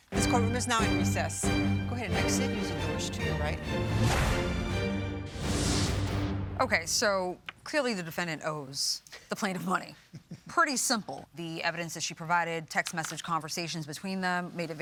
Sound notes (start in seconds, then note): 3.9 tense rhythmic music; 5.3 air whooshing; 10.0 judges laughing